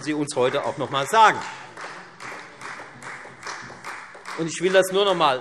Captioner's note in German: Beifall Freie Demokraten